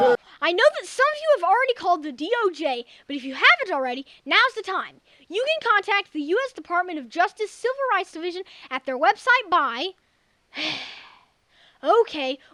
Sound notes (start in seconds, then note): 10.5 sigh